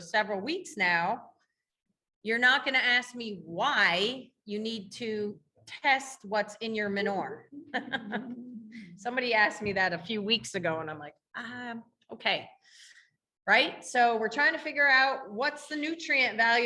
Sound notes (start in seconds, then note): 7.5 laughing